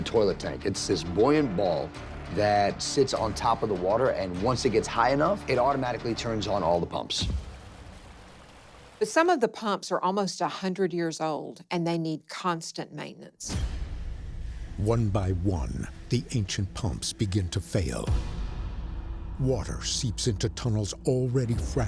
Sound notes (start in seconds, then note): 7.0 water rushing